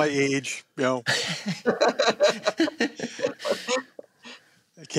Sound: laughter

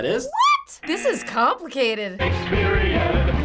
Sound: buzzer

